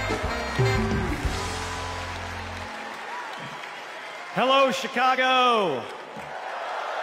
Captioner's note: cheers and applause